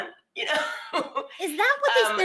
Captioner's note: laughs